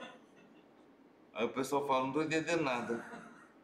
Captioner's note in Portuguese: risos; risos